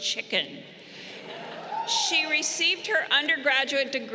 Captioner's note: crowd chuckling